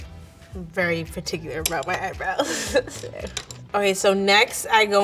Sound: gentle music; laughs

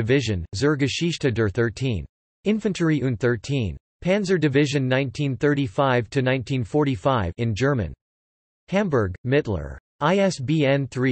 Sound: in German

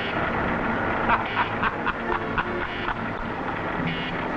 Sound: Zorka laughing

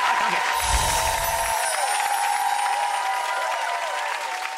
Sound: cheering; clapping

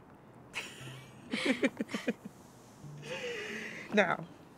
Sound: both chuckle

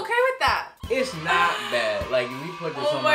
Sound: children cheering

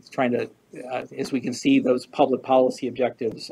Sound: none

